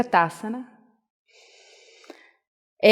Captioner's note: inhale